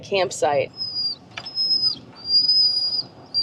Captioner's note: whine, whine!